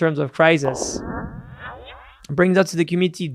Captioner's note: electronic echo